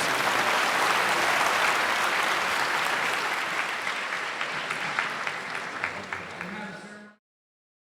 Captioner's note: applause